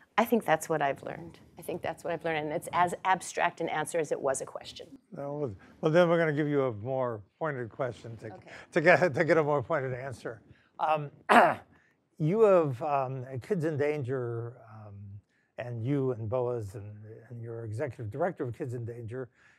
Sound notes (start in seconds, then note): 11.3 cough